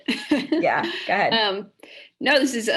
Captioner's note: laugh